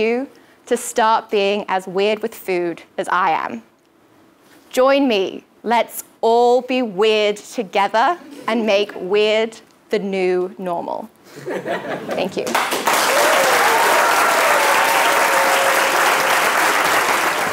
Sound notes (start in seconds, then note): 11.6 laugh; 12.4 applause